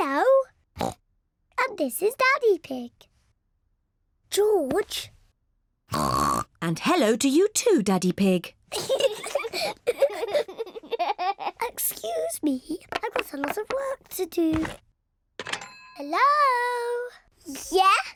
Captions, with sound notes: (OINKS) And this is Daddy Pig. -George! -(OINKS) And hello to you, too, Daddy Pig. (BOTH LAUGHING) Excuse me, I've got a lot of work to do. Hello? Yes.